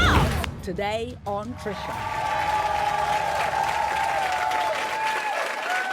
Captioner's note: crowd cheering and clapping